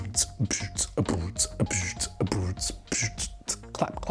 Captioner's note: more beatboxing